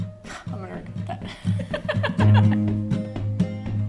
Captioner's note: laughing